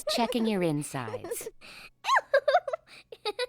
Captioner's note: giggling